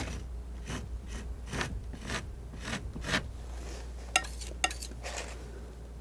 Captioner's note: scratching; scratching